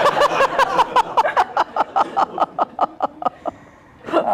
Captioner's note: laughter